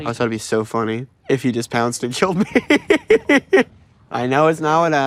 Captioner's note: laughing